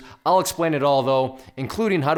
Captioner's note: none